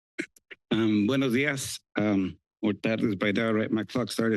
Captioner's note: foreign language